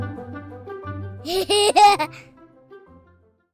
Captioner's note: laughter